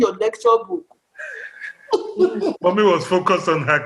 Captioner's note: laughter